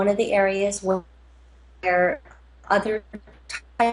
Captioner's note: audio cutting out